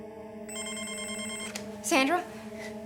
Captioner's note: phone ringing